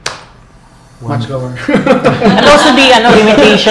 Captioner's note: laughs